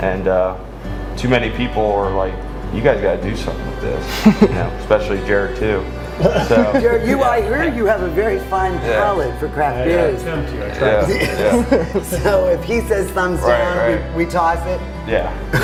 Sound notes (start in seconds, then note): 4.0 laughs; 6.1 laugh; 10.9 laughing